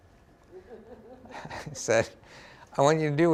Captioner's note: laughter